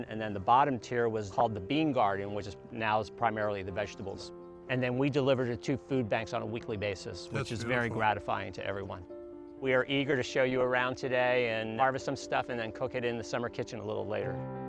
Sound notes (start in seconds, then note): 7.4 laughs